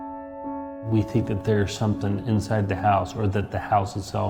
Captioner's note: voice over, male